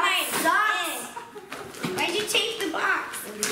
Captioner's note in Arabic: يضحك